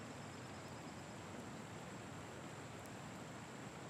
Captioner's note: river babbling